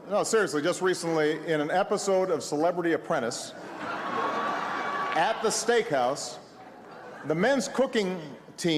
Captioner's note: laughs